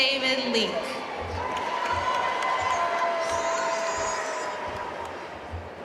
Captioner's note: audience cheering and applauding